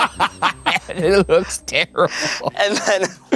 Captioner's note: both laughing; laughs